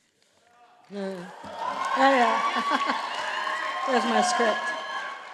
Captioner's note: audience applauding